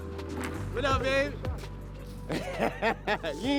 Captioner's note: laughs